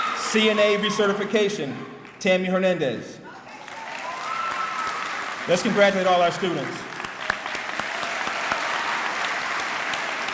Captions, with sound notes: CNA re-certification, Tami Hernandez. (clapping) Let's congratulate all our students. (clapping)